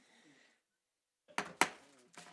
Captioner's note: gavel hitting dais